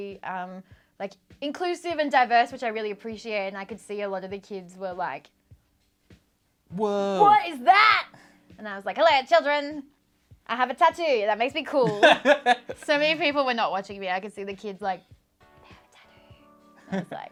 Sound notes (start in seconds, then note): 11.8 laughs; 15.1 whispers